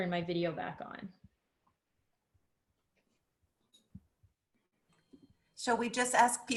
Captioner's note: silence